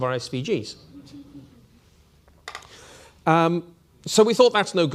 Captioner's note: audience laughing